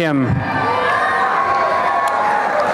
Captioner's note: applause and cheering